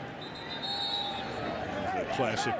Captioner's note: whistle blows